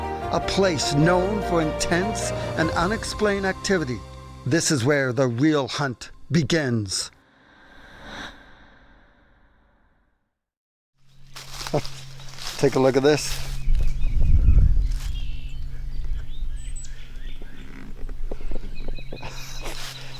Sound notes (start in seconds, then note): 7.2 heavy breathing; 11.0 rustling leaves; 13.7 birds chirping